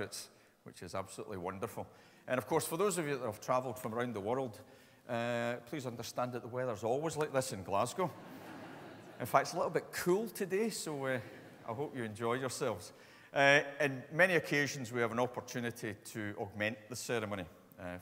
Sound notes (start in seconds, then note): 8.0 audience laughs